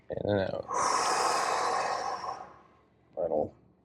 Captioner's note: exhaling